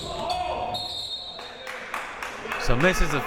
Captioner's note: whistle